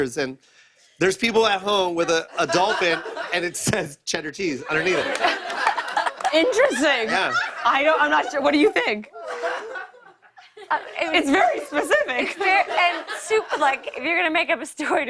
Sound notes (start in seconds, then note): 5.1 laughter